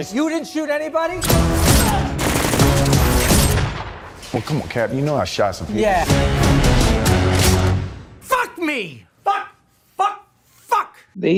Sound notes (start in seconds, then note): 1.2 fiery gun shooting; 5.4 dramatic music